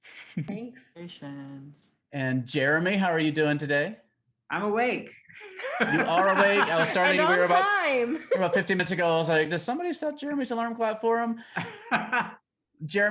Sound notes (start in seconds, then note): 5.4 laughing; 11.4 laughing